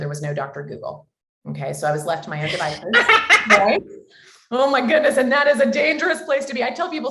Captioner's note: both laugh